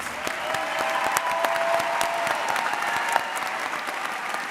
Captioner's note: audience applauds